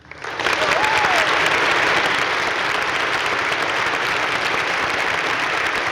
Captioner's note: crowd cheering and applauding